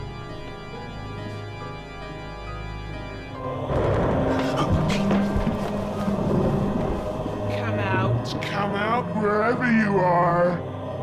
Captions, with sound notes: (gasps) - Come out, come out wherever you are.